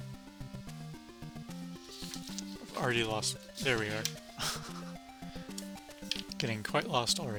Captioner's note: laughs